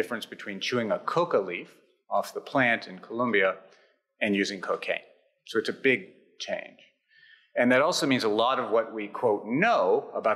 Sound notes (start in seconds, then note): none